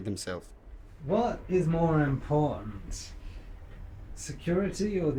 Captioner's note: voiceover